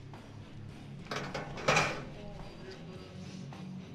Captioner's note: key clanging